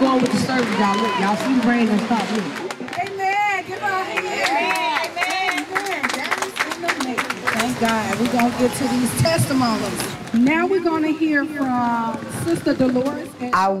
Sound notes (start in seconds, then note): 0.0 group clapping and cheering; 6.9 group clapping